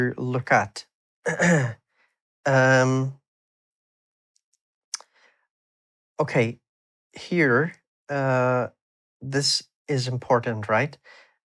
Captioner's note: clears throat